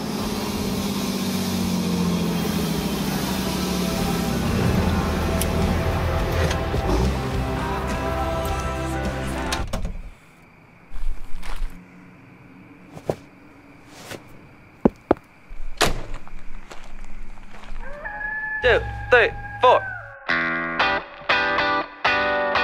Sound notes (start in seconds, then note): 0.0 truck engine; 4.8 radio plays; 10.8 gravel crunching; 12.9 jeans ruffle; 14.8 boots stomp; 15.8 door slams; 17.8 wolf howling